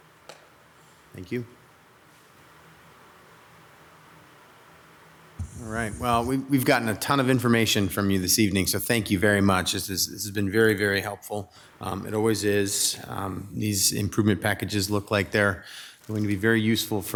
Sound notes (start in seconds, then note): none